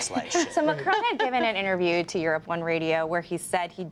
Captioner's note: laughter